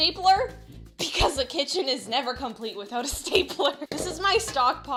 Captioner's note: laughing